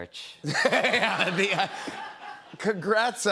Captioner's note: laughter